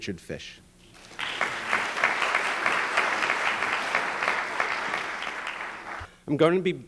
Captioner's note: applause